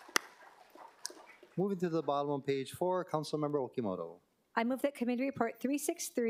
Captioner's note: applause